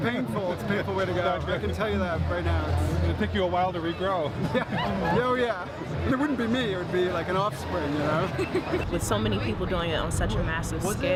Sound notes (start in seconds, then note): 4.4 laughing